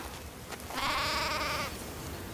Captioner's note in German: Blöken